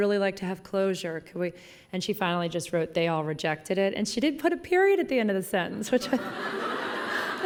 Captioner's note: laughing